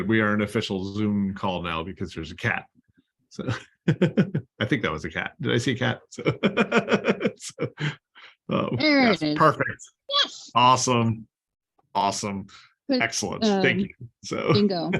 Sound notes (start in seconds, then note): 2.7 laughter